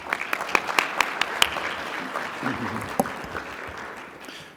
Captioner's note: audience clapping